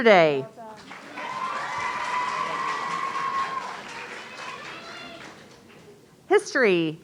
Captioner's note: audience cheering